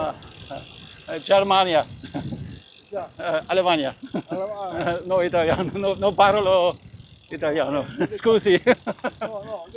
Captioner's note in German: gelächter